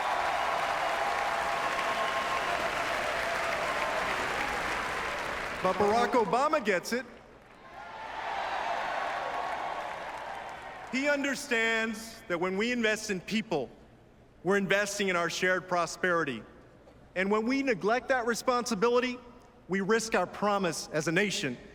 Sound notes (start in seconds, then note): 2.5 applause; 9.4 applause